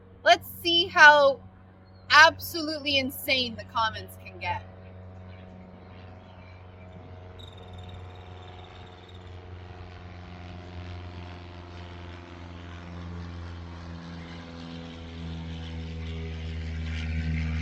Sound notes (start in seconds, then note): 4.7 plane whirring